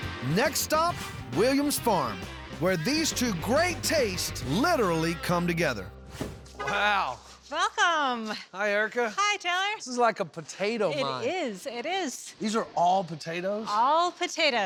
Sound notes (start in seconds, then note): none